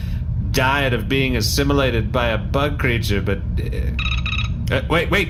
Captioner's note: phone rings